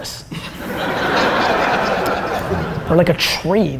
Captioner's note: audience laughter